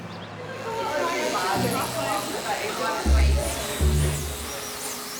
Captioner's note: background chatter; shears buzzing; whimsical music